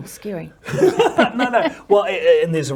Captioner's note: both laugh